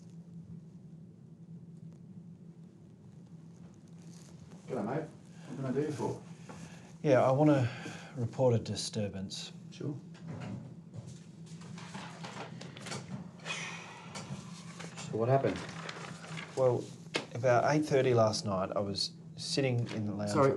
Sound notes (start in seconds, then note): 13.4 sighs